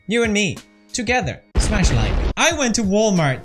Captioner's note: explosion